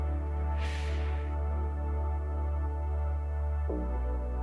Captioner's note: exhaling